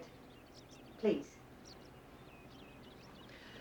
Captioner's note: birds tweeting